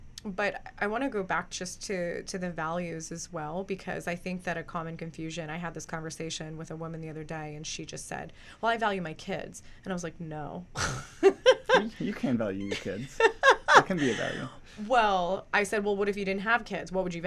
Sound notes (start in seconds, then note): 10.8 laughs